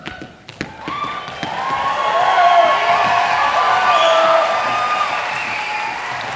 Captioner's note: audience applauding and cheering